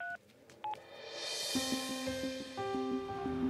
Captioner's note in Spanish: Sonido al marcar